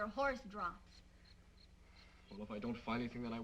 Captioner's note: insects chirping